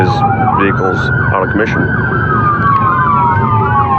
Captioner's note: none